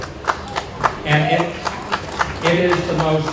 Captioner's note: audience claps